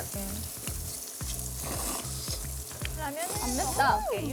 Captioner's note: slurp